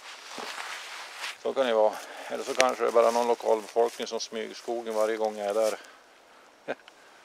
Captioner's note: laughing